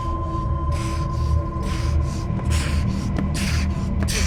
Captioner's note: Mark panting